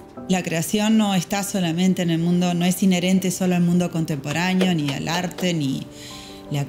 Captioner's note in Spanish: golpe mano sobre pared